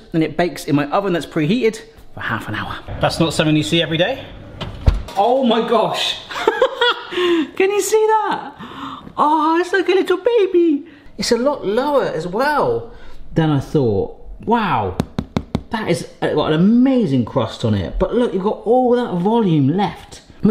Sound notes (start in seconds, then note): 6.3 laughs